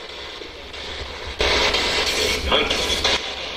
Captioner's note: static buzzing